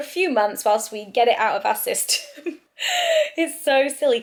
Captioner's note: laughs